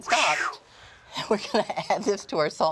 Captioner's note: chuckling